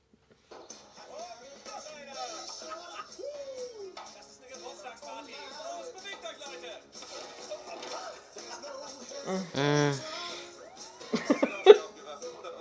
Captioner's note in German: lacht; fetzige musik; lacht; lachen